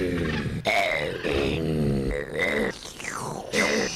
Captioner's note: lions growl and roar